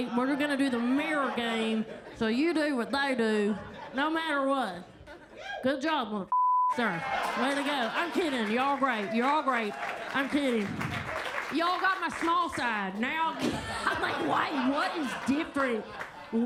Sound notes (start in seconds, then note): 6.3 beep; 9.4 attendees clapping; 10.4 attendees cheer and clap; 11.4 attendees clapping